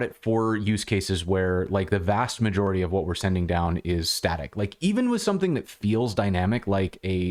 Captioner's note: audio cutting out